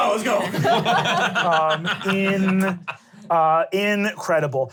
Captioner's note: laughs